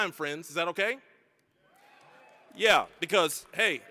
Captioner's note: graduates cheering